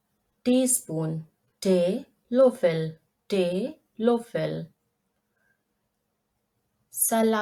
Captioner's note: in German: Teelöffel